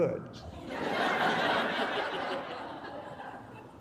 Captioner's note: laughter